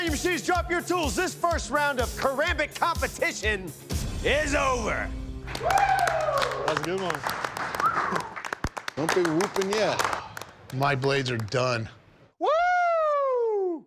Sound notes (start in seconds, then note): 5.4 applause; 7.7 whistles